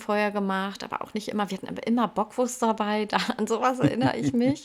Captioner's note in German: gelächter